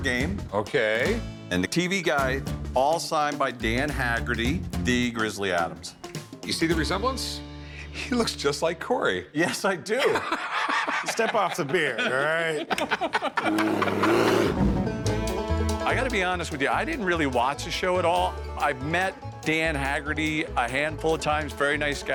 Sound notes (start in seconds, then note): 9.9 laughter; 14.0 banjo music